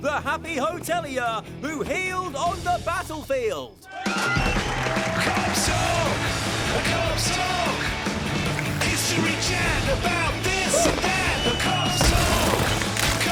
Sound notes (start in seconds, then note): 3.8 cheering